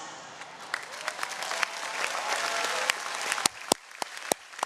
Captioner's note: audience cheering